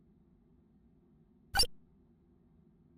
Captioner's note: electric Chirp